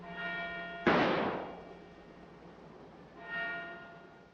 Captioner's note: bang!